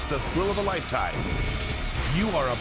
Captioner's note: explosion booming